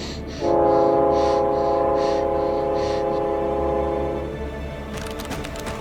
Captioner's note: train approaching; keyboard clacking